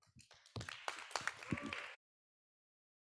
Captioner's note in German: Applaus